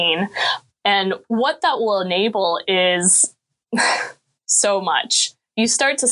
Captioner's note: chuckling